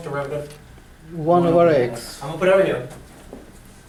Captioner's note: voiceover